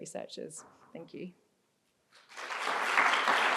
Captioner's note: applause